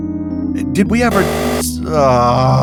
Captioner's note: buzzer